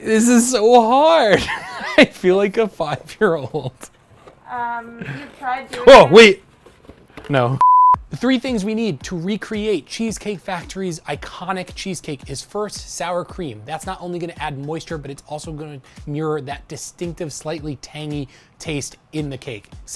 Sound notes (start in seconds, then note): 7.6 beep